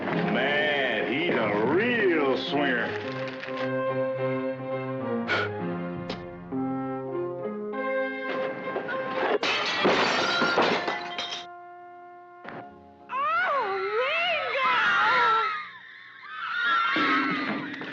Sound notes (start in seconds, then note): 5.2 snorts; 9.3 glass shatters; 13.4 crowd screaming